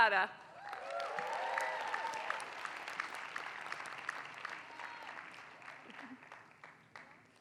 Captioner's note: applause